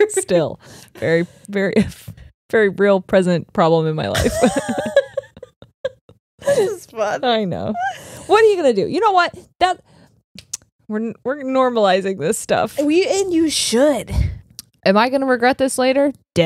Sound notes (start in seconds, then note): 4.2 both laugh